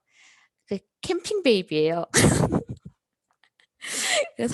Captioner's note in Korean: 웃음